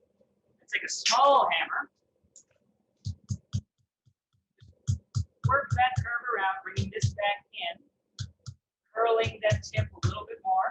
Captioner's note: hammering